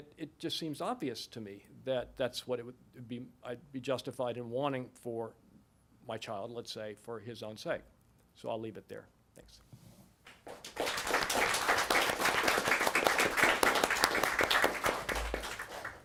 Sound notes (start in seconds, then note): 10.4 applause